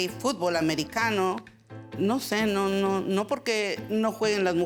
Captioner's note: speaking Spanish